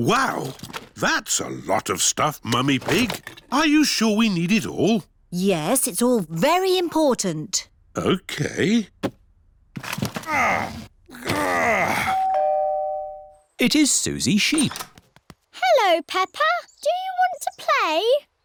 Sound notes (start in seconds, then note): 10.0 groans; 12.0 doorbell rings